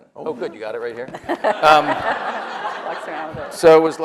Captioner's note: audience laughs